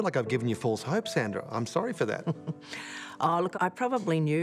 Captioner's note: chuckles